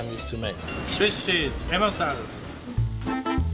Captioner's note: speaking French